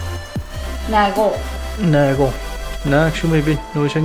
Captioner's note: south greenlandic accent